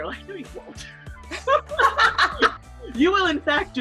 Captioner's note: laughter